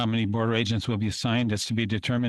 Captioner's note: speaking French